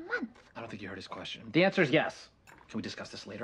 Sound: whispered

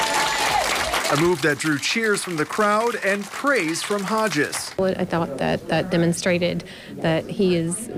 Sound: applause

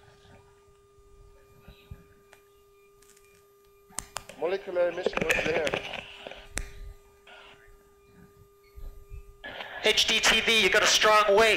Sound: laughter

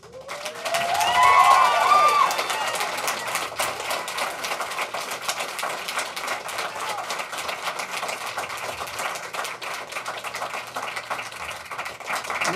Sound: applause

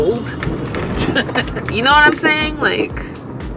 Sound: driver laughs

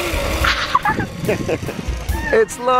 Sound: laughing

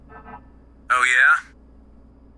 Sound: intercom

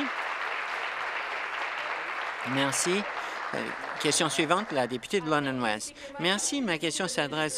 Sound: applause

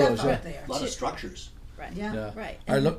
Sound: voiceover

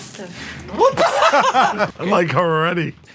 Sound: laughter

